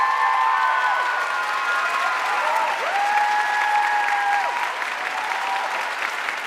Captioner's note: audience cheering and applauding